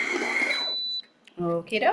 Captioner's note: mixer beeps